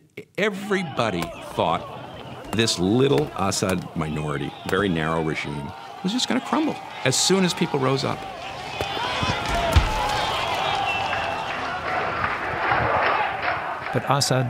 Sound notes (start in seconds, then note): 9.7 shouting; 12.4 chanting